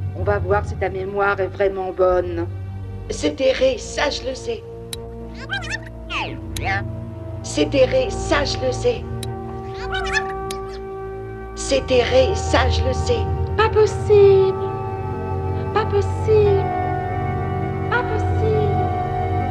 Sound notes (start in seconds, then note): 5.3 voices rewind; 9.6 voices rewind